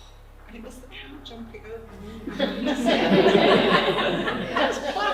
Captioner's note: laughter